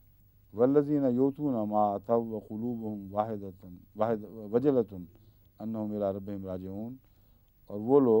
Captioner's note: Arabic